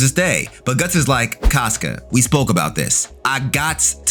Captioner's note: air whooshing